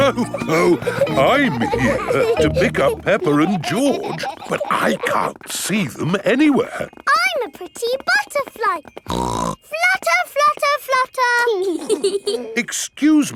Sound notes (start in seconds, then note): 0.0 laughs; 9.0 snorts; 11.7 both giggling